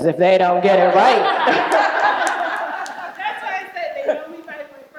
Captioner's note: group laughing